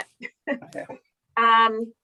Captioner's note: group laughing